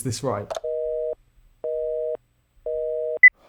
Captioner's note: busy signal beeps; timer beeps